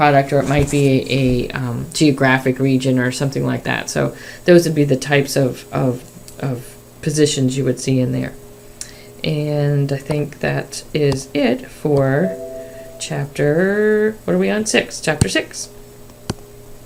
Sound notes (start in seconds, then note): 12.2 notification chime